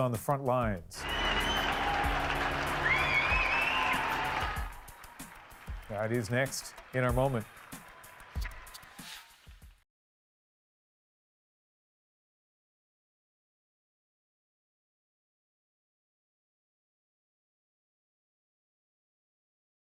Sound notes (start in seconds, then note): 8.8 cheers and Applause